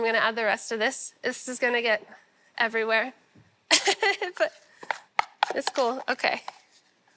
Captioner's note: laughs